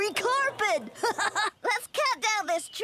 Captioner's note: laughing